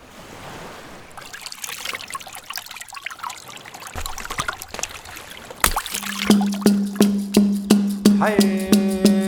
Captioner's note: breeze, ocean sounds; fish jumping out of water sounds; chanting, drumming